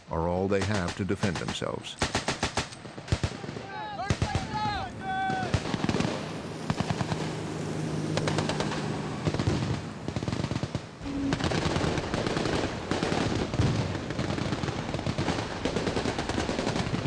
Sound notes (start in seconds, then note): 1.9 rapid, continuous gunfire; 6.7 boat motor; 9.2 explosion; 11.3 rapid, continuous gunfire